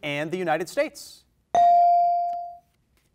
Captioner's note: bell rings